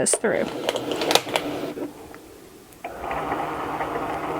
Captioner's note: machine buzzing